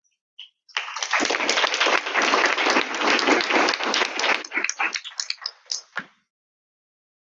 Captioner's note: audience clapping